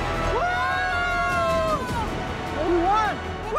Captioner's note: cheering